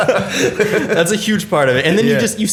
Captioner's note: laughter